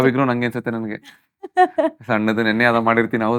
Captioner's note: laughs